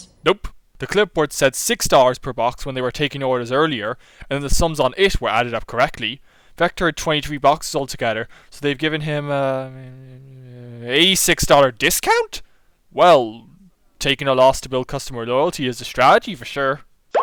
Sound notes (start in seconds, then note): 8.9 narrator mumbles while calculating like a calculator